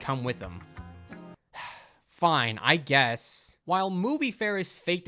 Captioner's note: sighs